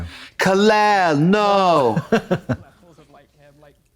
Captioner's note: Katya giggles